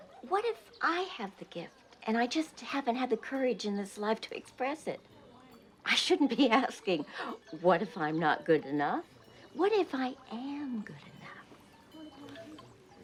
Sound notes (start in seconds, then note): 6.8 laughs